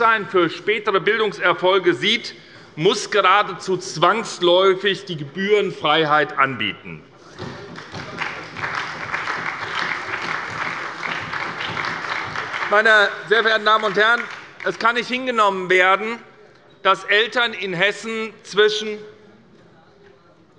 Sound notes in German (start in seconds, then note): 7.4 Beifall bei der SPD